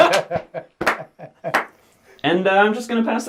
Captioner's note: all laugh